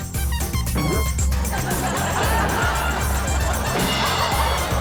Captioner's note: audience laughs